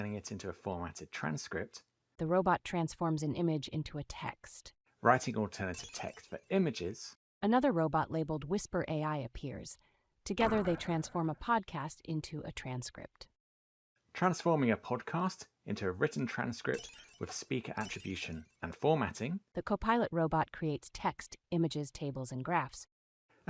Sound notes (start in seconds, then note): 5.7 sparkly Noise; 9.8 reverberating noise; 16.7 sparkly noises